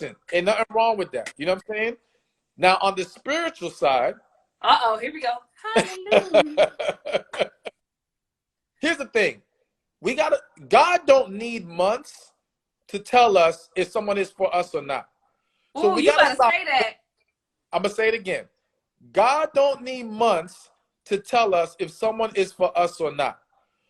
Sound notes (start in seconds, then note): 5.7 laughs